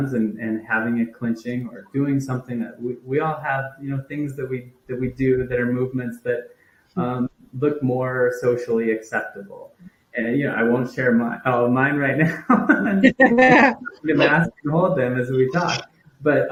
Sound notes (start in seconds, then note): 12.2 all laugh